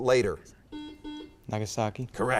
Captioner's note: buzzer beeps